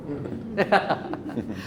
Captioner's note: laughing